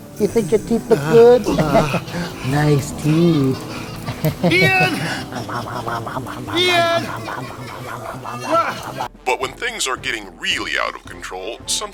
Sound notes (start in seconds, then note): 5.3 creepy laughing all around; 7.5 creepy creepy laughing